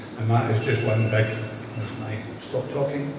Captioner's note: phone ringing